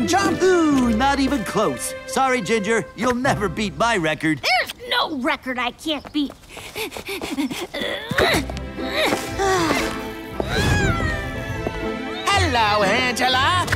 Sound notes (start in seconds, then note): 6.6 sighs; 7.7 grunts and strains